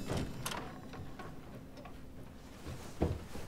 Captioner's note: door opens